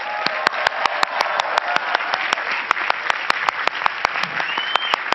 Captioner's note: cheering and clapping